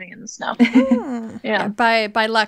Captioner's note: laughing